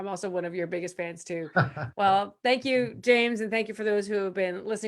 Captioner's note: laughs